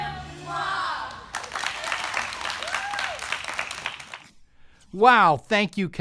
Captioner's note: all clapping hands